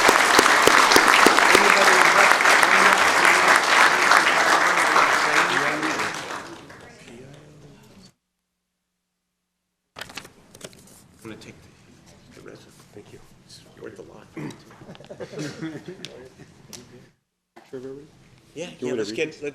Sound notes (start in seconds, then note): 4.9 applause